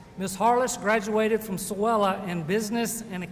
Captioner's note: none